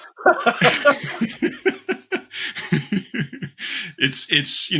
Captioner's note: chuckles; chuckling